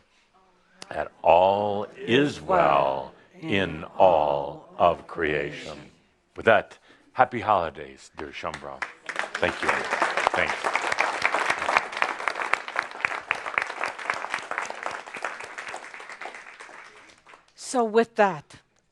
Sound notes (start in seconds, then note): 13.9 audience applause